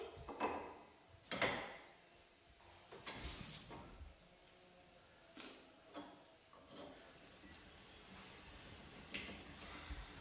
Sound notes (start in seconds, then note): 5.2 sniffling